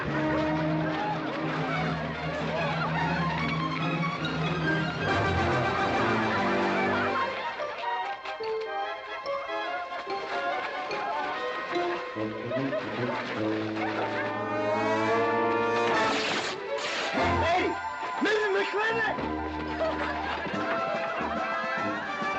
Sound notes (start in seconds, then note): 0.1 amused crowd noises; 15.7 cloth tearing; 19.8 amused crowd noises